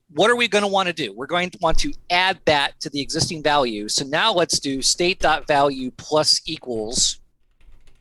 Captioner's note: audio cutting out